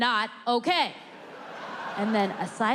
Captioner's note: audience laughing